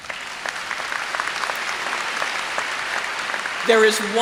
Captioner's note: applause